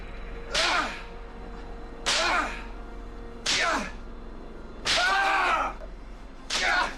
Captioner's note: squalls in pain; whip cracks